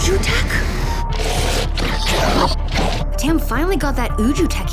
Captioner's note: 2Bells growling